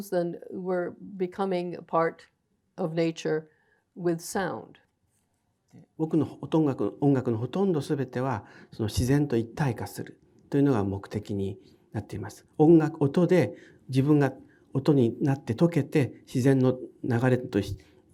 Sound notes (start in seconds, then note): 6.0 speaking in foreign language